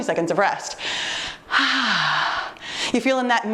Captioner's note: exhales sharply